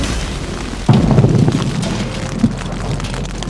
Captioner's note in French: Tonnerre